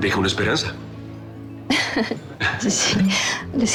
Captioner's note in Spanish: Risa nerviosa